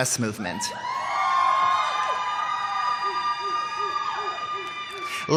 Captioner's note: cheers